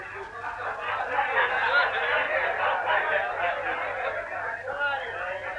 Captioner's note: chattering and laughter